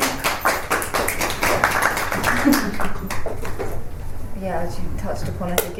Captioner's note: applause